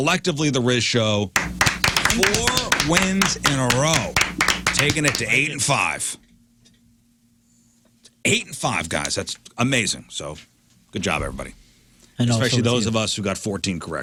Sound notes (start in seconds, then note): 1.3 clapping